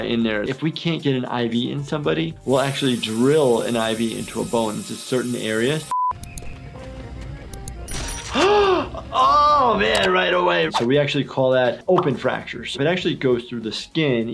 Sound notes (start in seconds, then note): 5.9 beep; 8.3 gasps